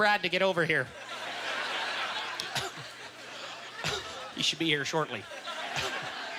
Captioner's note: audience chuckling